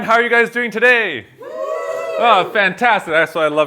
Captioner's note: students cheering